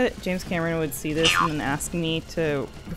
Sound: boing

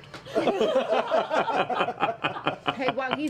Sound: laughter

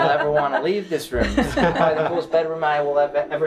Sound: laughing

